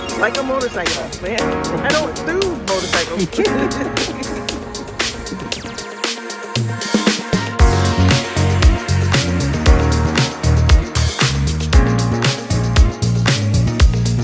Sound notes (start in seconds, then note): 0.0 upbeat music; 3.3 woman laughing; 8.0 exciting beat music